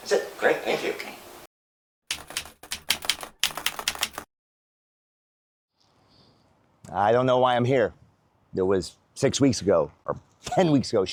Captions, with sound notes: That's it, great, thank you. - Okay. (keyboard keys clicking) I don't know why I'm here. There was six weeks ago, or 10 weeks ago,